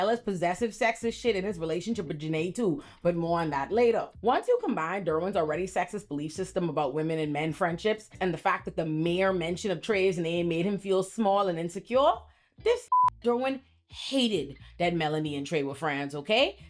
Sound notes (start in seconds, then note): 12.8 beep